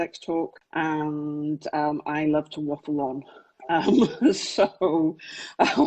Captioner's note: laughs